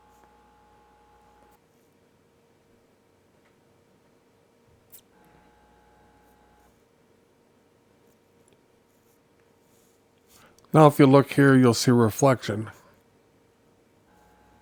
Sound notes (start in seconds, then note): 1.6 silence; 14.0 silence